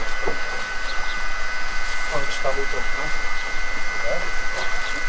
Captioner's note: machine whirring in the background, quiet conversation